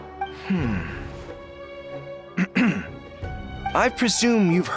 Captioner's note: clears throat